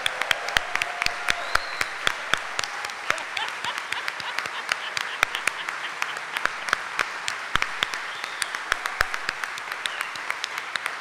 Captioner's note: audience cheering and applauding